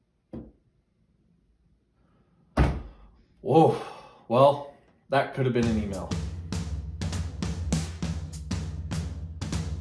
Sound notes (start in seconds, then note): 2.6 desk bangs; 7.0 upbeat music